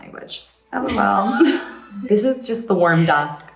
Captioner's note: laughs